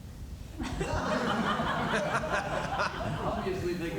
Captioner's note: laughter